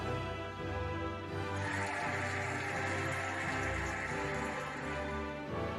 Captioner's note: cheering and applauding